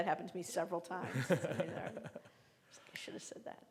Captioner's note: laughing